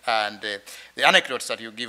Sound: none

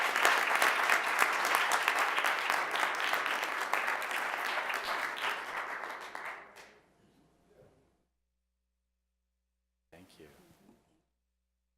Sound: applause

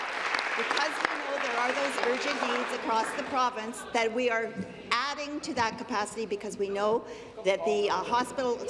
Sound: applause

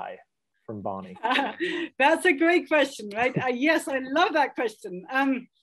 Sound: laughs

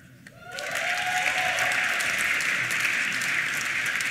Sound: applause

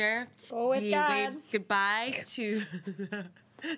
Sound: laughing

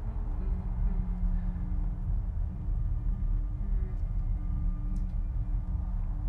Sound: hums

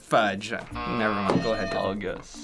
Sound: buzzer

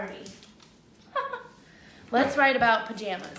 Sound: laughs

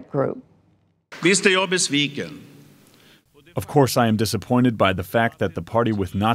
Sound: through translator

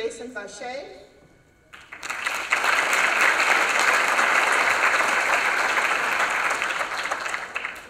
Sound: applause

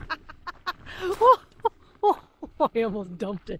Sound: laughing

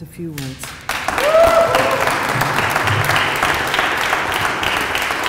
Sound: applause

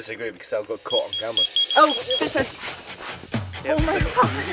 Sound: alarm beeps

